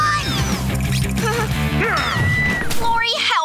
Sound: chuckles, screaming

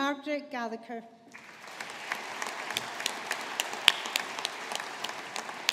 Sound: audience applauding

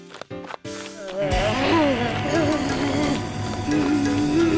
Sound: groaning

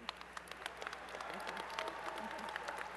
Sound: applause

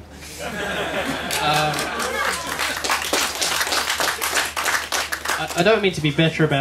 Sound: laughter/Applause

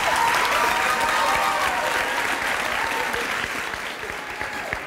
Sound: audience cheers

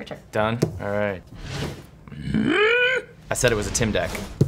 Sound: grunting

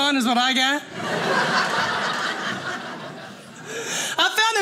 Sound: audience laughing

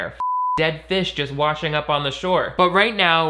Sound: beeping

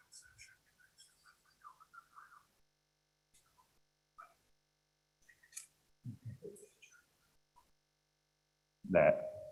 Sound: whispering in background

